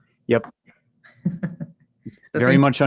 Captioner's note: chuckles